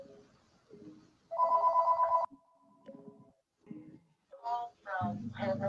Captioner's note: phone rings